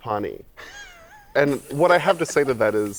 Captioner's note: laughter